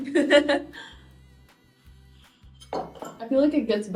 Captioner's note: laughing